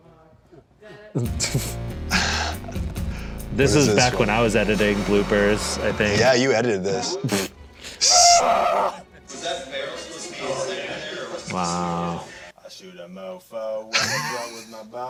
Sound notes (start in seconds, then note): 7.9 crew yells